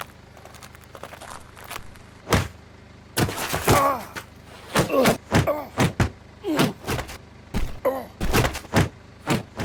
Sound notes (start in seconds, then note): 2.4 Dan groaning; 2.4 punches thudding